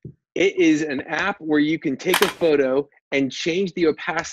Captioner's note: camera click